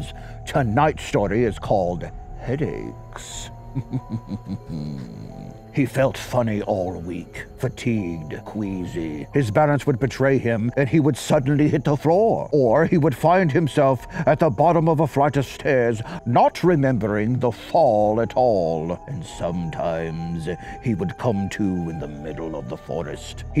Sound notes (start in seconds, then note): 3.6 giggles